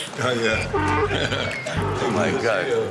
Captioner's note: laughing